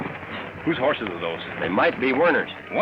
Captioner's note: crash